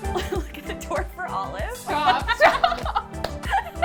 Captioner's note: laughs